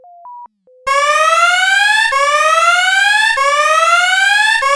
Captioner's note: alarm blares